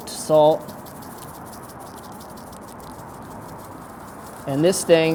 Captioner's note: salt dispensing